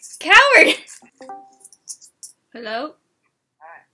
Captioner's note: Discord joining voice chat sound beep boop